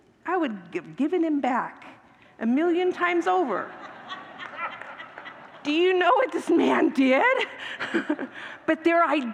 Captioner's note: congregants laugh